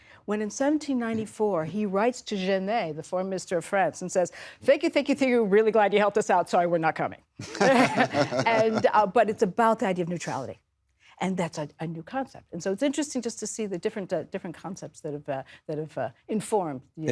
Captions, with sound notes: when in 1794, he writes to Genet, the foreign minister of France, and says, "Thank you, thank you, thank you. "Really glad you helped us out. "Sorry, we're not coming." [Laughter] But it's about the idea of neutrality. And that's a new concept. And so it's interesting just to see the different concepts that have informed.